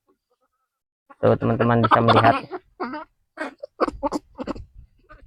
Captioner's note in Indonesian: tertawa